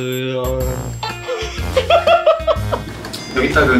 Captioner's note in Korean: 멤버들 폭소